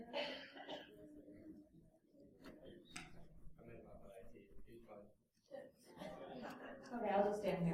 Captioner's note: background chatter